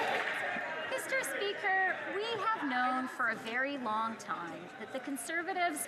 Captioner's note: some Applause